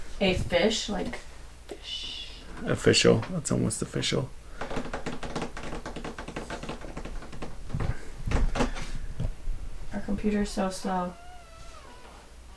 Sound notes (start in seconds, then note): 4.5 nails tapping on desk